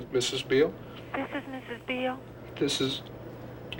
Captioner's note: on phone